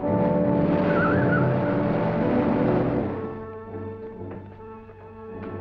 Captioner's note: tires screeching